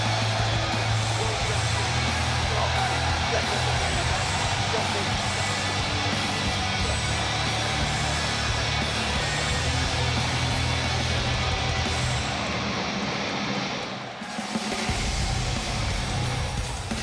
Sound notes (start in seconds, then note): 0.0 crowd cheering; 3.2 crowd cheering; 5.5 crowd chatter